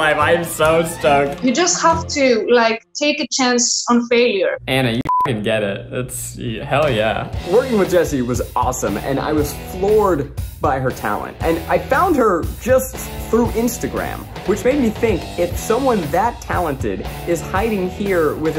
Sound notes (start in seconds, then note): 5.0 beep